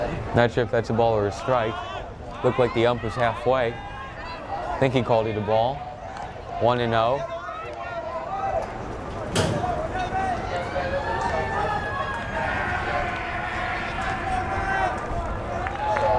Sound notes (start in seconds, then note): 11.5 siren wails